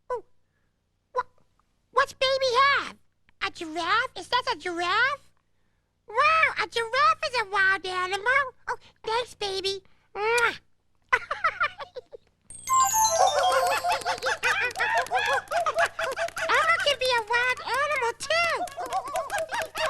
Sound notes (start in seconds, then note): 13.3 hooting